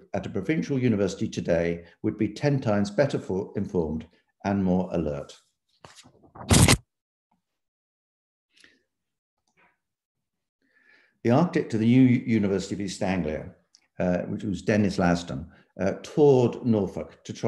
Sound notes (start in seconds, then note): 5.8 paper shuffling